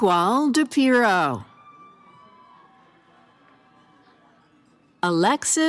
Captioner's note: cheering